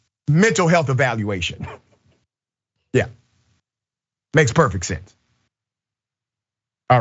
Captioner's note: laugh